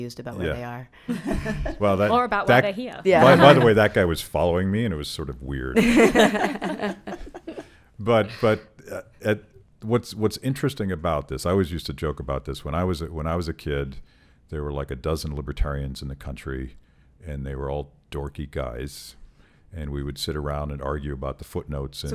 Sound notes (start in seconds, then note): 1.1 laughing; 5.8 laughing